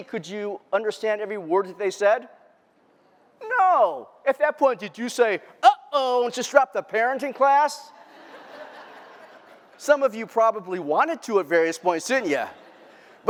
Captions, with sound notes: could you understand every word that they said? No. At that point, did you say, uh-oh, and just dropped the parenting class? [LAUGHTER] Some of you probably wanted to at various points, didn't you?